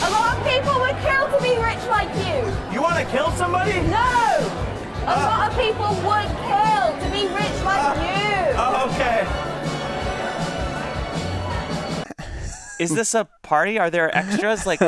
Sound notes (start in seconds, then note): 9.8 crowd chatters indistinctly; 9.8 lively music continues